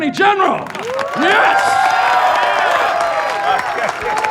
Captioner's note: audience applauding